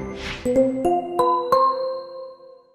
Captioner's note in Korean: none